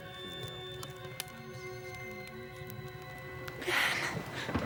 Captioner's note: indistinct conversation; whispering